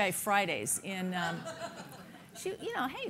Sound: laughing

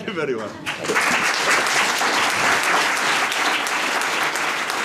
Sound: audience applauding

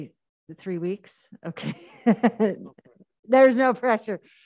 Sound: laughs

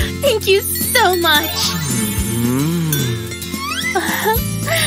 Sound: grunting

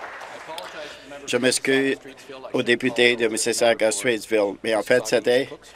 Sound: applause

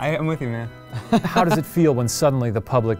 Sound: laughing

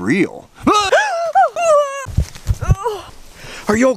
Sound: spooked gasps

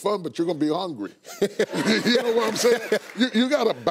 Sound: all laughing

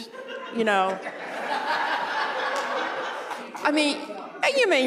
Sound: laughter

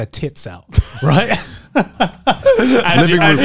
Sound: laughs

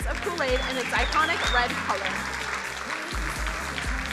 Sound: crowd applauding

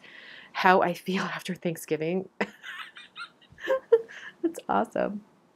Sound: laughs

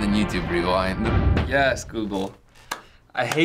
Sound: claps

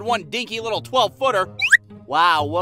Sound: whhoooppp

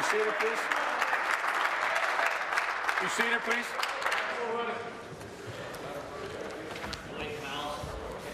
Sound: applause

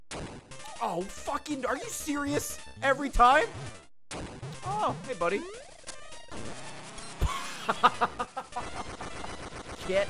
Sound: laughs

